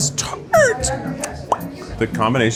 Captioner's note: mouth pops